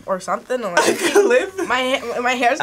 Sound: laughs

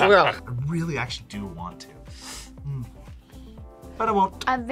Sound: inhales

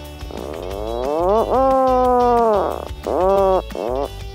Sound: penguin caws

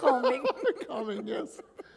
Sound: laughter

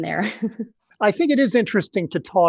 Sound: laughs

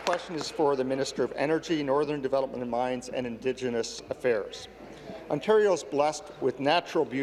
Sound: applause

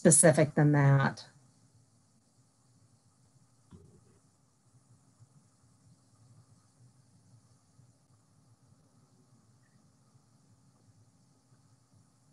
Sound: silence

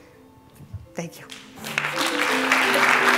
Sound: applause

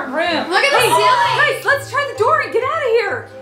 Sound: gasps

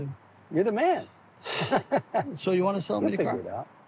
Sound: chuckles

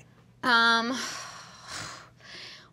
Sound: sighs

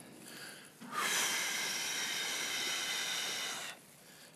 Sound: sighs

